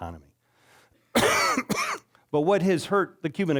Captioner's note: coughing